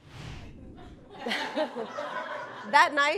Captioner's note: audience chuckle; laughing